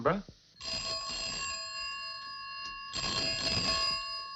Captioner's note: phone ringing